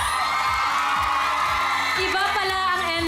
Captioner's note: crowd screams